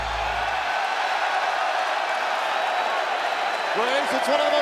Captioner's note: cheers and applause